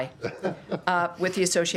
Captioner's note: laughter